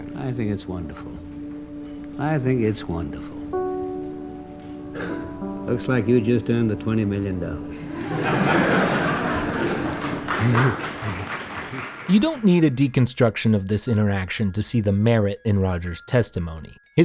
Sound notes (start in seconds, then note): 7.9 Senate laughing; 9.8 applause